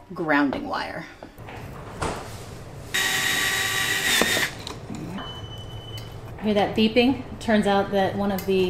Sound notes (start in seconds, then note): 5.1 beeping in the background